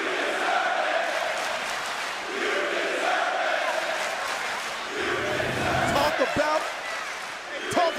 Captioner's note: crowd cheering